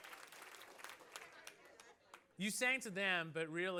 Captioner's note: applause